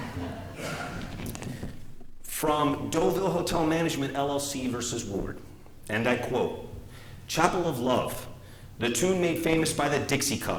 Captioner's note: laughter